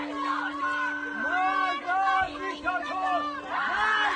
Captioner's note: crowd Chanting